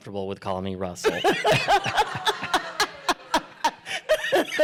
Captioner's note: laughter